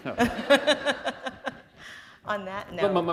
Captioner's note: laughter